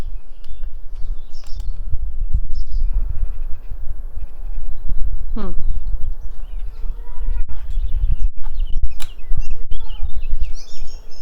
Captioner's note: birds chirping